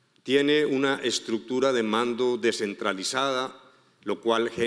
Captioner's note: speaking in foreign language